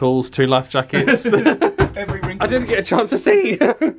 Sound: laughs

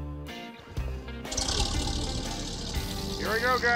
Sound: engine starting

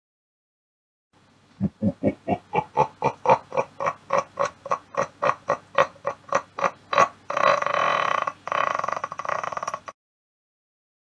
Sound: laugh

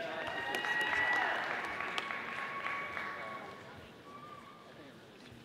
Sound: audience applauding

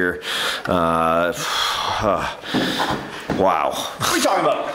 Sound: muttering appreciatively

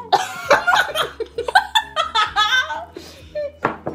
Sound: laughing

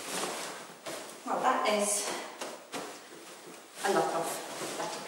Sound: hands patting

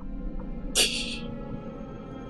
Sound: laughs softly

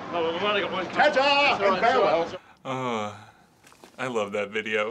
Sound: sighing

